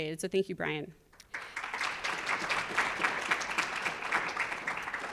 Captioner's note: audience applauds